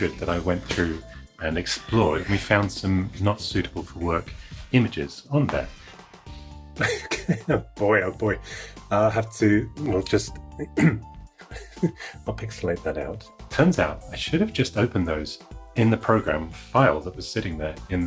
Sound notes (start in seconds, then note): 6.8 laughing; 10.7 clears throat